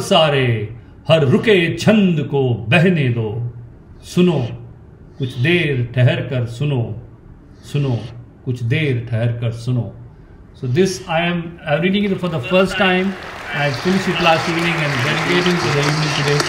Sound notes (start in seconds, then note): 12.1 applause